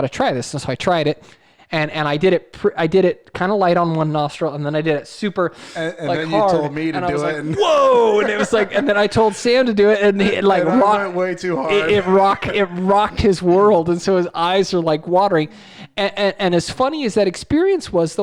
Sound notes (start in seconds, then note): 5.5 inhales; 5.6 laughs